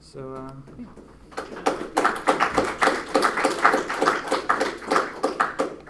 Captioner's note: applause